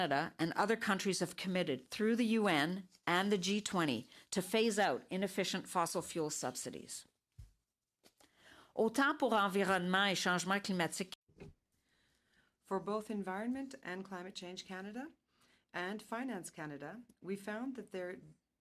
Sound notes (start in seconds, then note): 15.2 speaking French